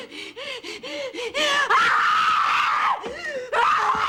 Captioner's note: screams